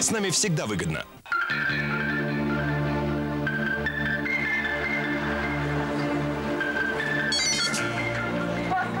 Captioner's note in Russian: звонок телефона